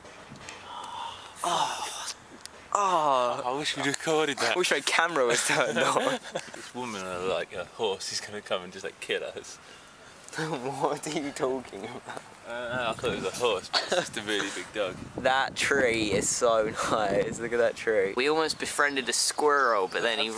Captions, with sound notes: Ahh fuck (ahh) Ahh I wish we'd recorded that. I wish my camera was turned on. [laughter] This woman and like her horse is going to come and just like kill us. What are you talking about? I don't know i thought it was a horse but it's just a really big dog. That tree is so nice look at that tree. We almost befriended a squirrel but then he r-